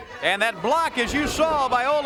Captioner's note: crowd cheering